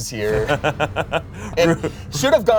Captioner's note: laughs